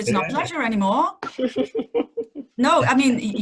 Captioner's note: laughing